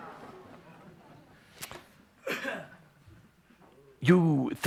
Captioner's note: much laughter